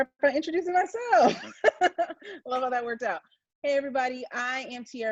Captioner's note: laughs